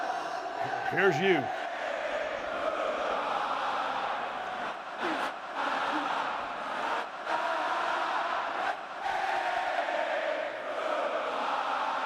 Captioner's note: applause